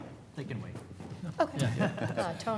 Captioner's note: chuckles